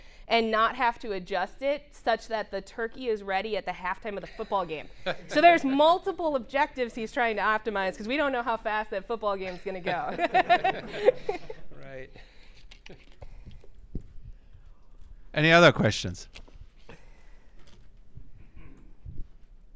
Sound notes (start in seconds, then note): 4.4 audience laughing; 9.8 audience laughing